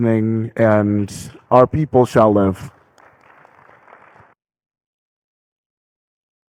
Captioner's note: audience clapping